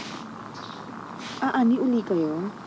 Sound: broom scrapping the dirt

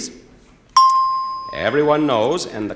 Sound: bell dinging

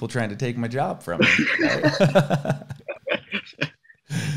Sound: laughs

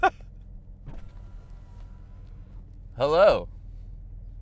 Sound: laughs; car window opens

